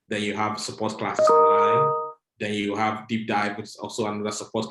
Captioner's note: computer chimes